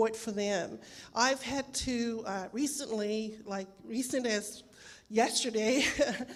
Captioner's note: laughs